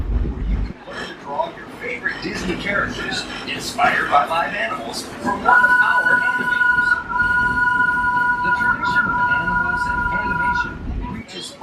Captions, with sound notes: where you can learn to draw your favorite Disney characters inspired by live animals from one of our animators. [train whistles] The tradition of animals and animation reaches